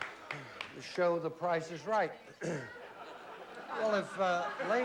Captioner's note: clears throat